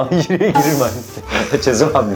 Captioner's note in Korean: 스읍